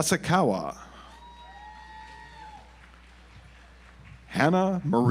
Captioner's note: audience applauds